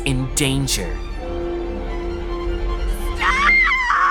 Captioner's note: clock Bell Tolling; screaming